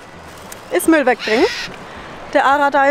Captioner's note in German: Vogelkrächzen